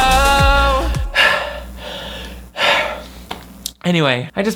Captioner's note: pants